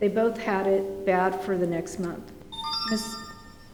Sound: beeping

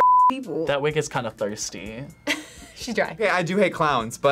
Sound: laughs

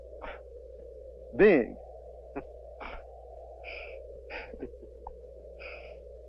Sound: laughing

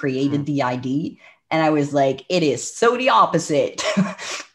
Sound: laughs

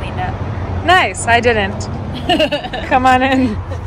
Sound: laughing

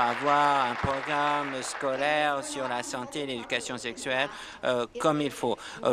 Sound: applause

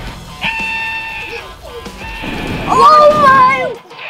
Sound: action music; dad screaming

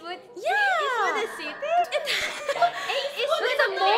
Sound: laughs

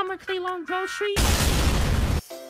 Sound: boom

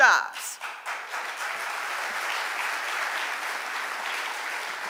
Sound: audience applauding

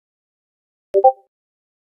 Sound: discord notification 4

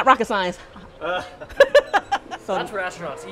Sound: laughs

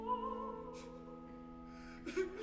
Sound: Rodolfo sobbing

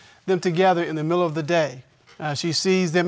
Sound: none

